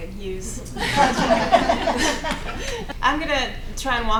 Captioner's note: laughing